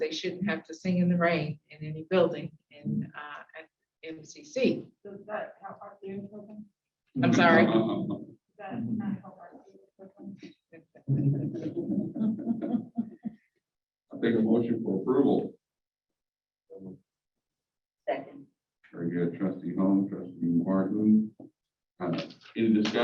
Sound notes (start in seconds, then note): 10.8 laughter